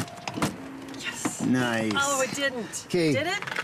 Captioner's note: door clicks shut